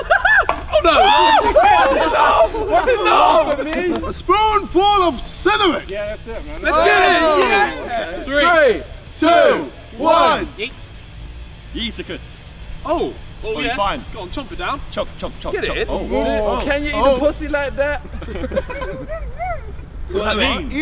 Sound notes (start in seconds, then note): 0.0 screaming and laughing; 11.1 rock music; 17.8 laughing